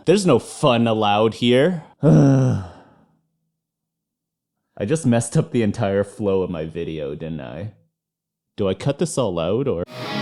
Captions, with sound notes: There's no fun allowed here. [Sigh] I just messed up the entire flow of my video, didn't I? Do I cut this all out, or...